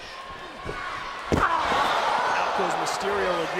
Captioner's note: crowd cheering